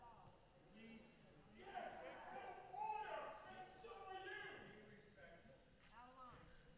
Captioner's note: shouting continues